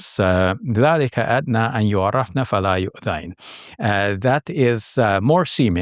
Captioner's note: speaking Arabic